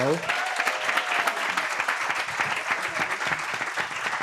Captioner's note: audience applauding